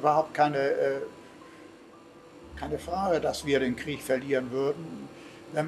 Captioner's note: continues speaking in German